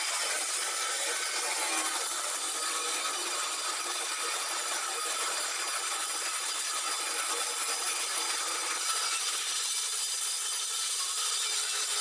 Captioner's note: tile Saw Cutting Noise